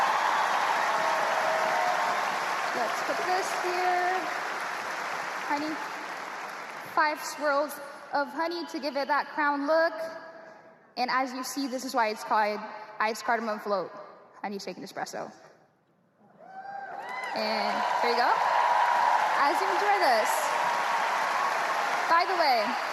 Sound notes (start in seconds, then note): 4.6 cheers and applause